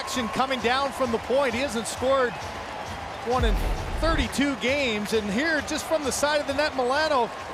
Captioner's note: cheering